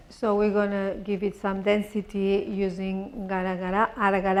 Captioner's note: spanish